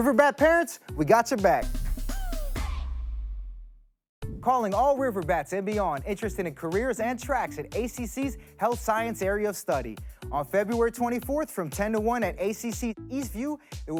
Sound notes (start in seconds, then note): 1.8 energetic music; 4.3 air whooshing